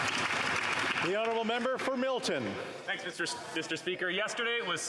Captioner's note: some Applause